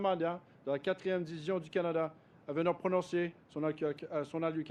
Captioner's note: speaks French